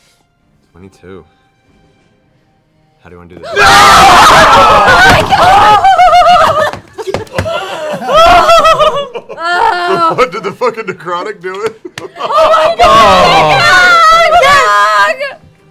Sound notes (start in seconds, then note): 3.4 cheering; 12.2 screaming